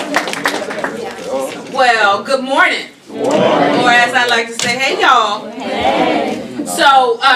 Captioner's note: applause